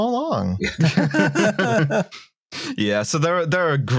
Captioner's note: laughter